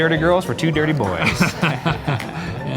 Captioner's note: laughs